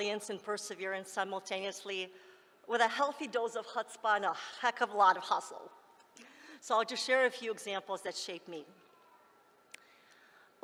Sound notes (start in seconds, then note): none